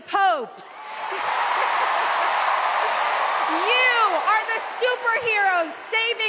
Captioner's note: cheers and applause